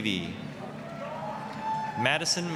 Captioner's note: applause, cheering